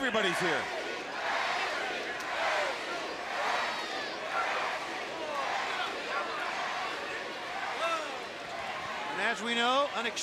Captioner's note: crowd cheering